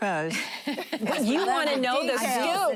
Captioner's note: laughing